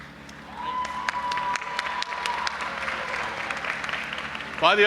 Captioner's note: audience applauding and cheering